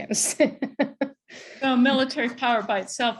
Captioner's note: laughs